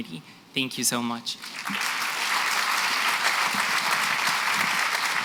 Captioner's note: applause